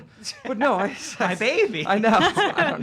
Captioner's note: laughing